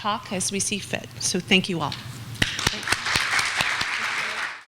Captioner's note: clapping